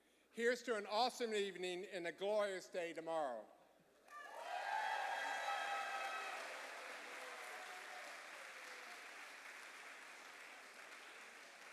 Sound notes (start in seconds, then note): 4.0 cheers and applause